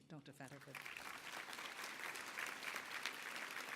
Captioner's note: applause